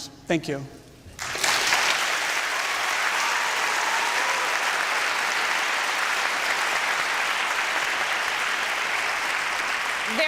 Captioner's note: applause